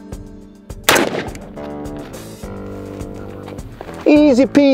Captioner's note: upbeat music; pistol fires